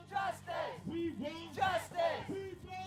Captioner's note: crowd